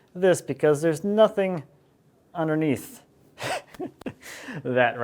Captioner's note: laughs